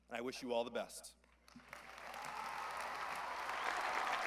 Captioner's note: applause